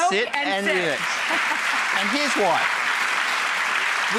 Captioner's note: applause